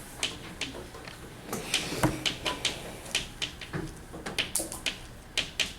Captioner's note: chalk clicking on board